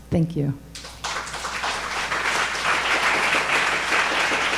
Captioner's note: audience applauding